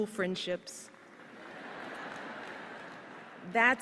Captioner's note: laughter